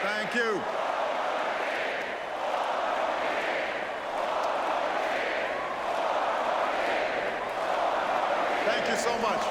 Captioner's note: audience chants